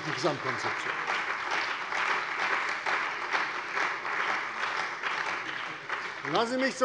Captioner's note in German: Beifall bei der CDU und dem BÜNDNIS 90/DIE GRÜNEN